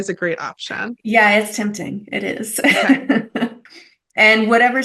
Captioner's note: laughs